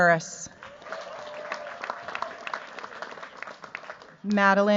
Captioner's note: cheers, applause